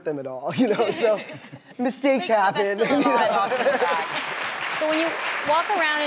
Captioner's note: clapping